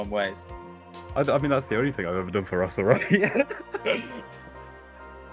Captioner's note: laughter